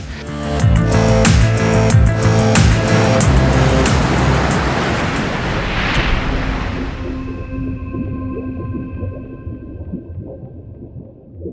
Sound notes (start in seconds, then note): 0.0 upbeat music; 3.4 water sploshes; 7.1 gentle music